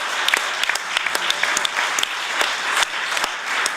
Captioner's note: applause